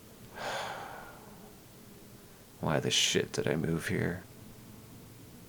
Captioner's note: sigh